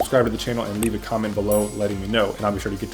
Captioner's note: bell chimes